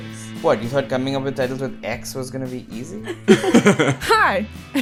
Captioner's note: laughter